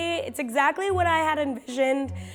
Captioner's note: none